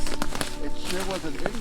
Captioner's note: twigs snapping